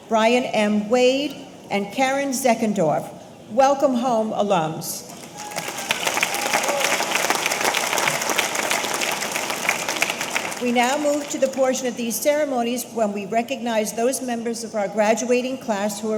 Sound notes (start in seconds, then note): 5.1 audience applauding; 5.2 audience cheering